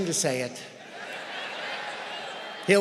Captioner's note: laughter